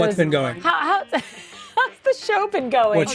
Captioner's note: laughing